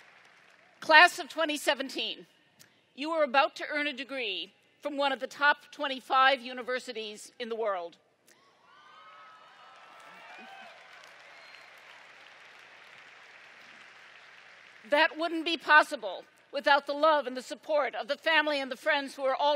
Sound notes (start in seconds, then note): 9.0 applause